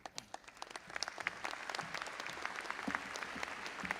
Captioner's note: audience applauding